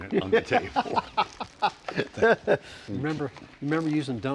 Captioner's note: laughing